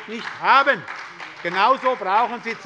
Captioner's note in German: Beifall bei der SPD